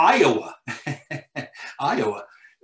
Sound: laughing

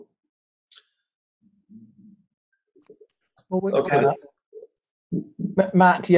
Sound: chatter

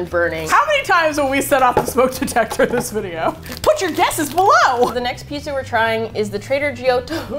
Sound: laughs; laughs

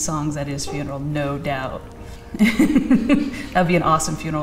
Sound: laughing

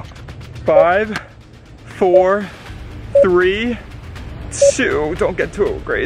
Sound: beeping

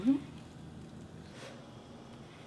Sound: slurps

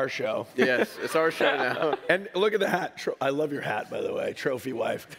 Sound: laughs

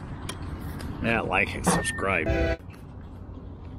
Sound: train horn

